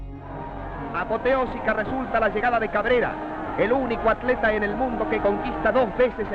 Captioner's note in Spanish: Voz en off